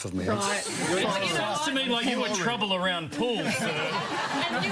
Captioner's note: audience laughs